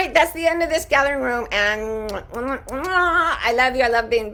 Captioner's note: makes kisses sound